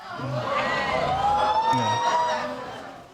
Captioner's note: audience laughing